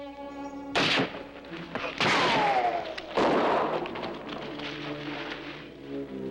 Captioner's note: bullets ricocheting; guns firing